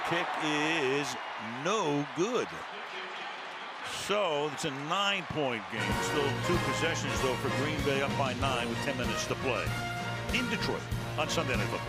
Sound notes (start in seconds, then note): 3.5 cheering